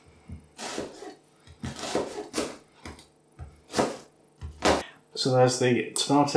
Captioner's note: slice chop slice